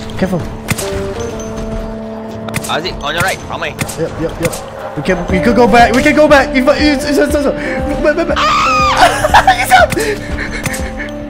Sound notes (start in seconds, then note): 8.3 screams